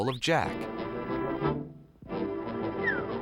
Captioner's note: whistles